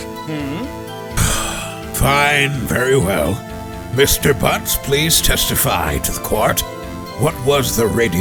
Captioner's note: sigh